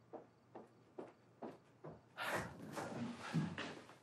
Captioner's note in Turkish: ayak sesleri̇